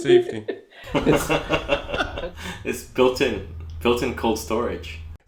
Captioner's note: laughs